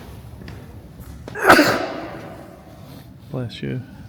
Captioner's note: lound sneeze